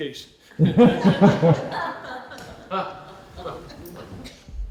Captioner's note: laughter